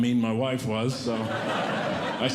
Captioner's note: audience Laughing